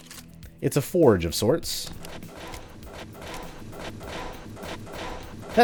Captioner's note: flips switch, ammo forge clanking